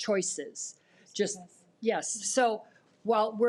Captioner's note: speaks faintly